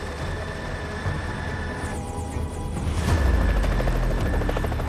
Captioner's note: helicopter whirring